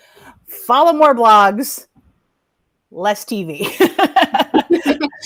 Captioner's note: laughs